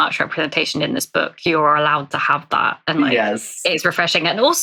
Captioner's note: laughs